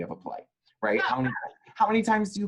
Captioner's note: laughs